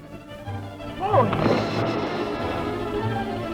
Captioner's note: water splashing; suspenseful music